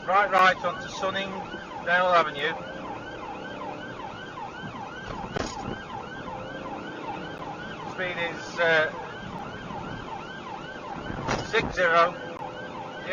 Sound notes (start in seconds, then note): 2.3 engine accelerates; 4.5 car clunks over speedbump